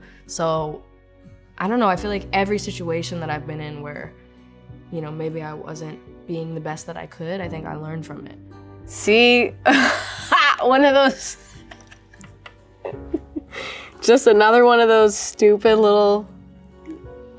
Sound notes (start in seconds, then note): 9.7 laughs; 12.8 laughs